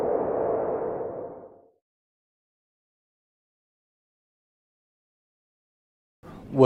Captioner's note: swoosh sound